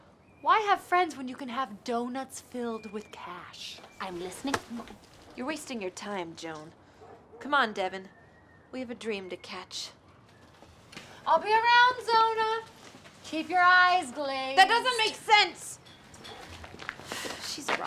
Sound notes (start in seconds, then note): 4.3 slapping